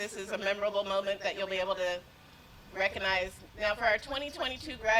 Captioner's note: none